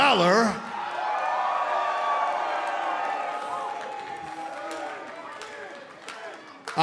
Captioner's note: crowd cheering